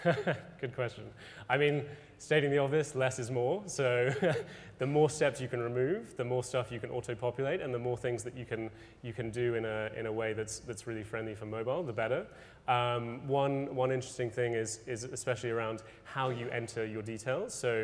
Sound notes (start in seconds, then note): 0.0 laughs; 3.9 laughs